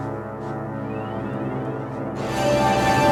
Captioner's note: eerie sound